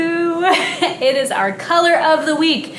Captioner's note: chuckles